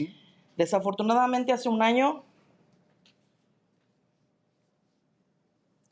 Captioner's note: speaking in Spanish